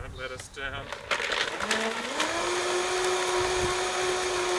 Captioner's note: blender whirring